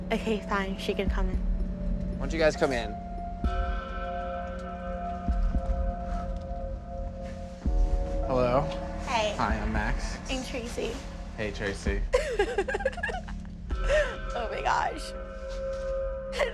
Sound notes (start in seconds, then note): 3.6 dramatic music; 12.1 laughing